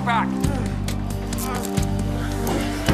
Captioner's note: grunts of struggle